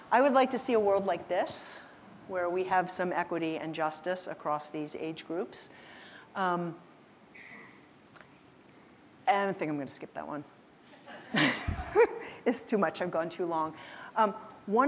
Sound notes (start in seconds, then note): 11.8 laughs